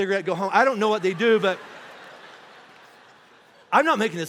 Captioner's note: congregation laughing